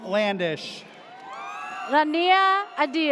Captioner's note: audience cheers